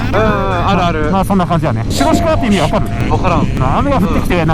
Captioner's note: hakata dialect